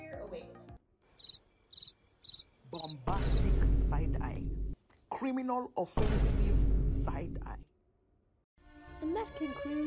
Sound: crickets

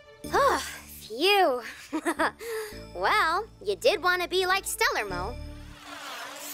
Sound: sighs

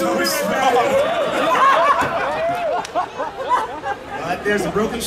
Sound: audience laughing

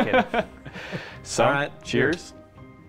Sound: laughter

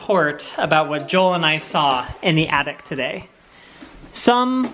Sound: none

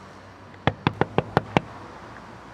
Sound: knock on window

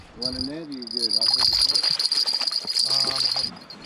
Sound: jangling

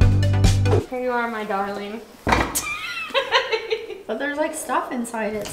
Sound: laughing

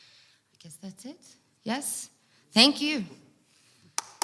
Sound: audience applauds

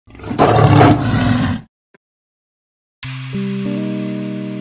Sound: lion roaring; gentle music

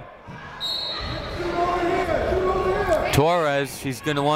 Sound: whistle blowing

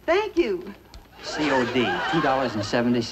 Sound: canned laughter

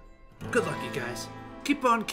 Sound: none

